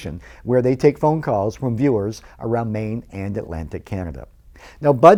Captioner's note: none